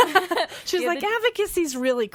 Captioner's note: laughing